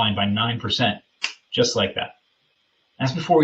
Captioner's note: fingers snapping